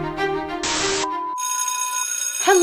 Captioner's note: intro music; bell rings